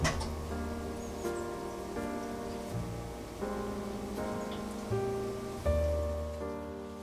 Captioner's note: heated oven